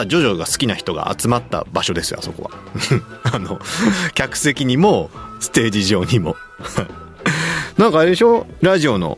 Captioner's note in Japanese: 笑い